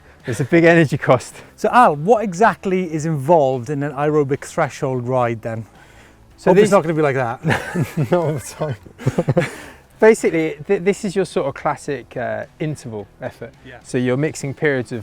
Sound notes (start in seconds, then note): 7.4 laughter